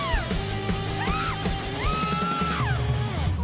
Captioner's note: screams